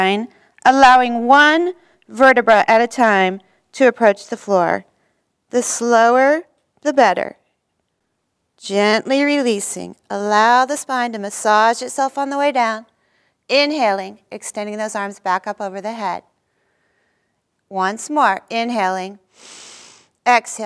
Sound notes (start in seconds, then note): 19.3 inhaling